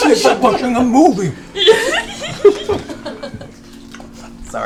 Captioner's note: giggles